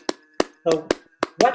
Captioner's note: clapping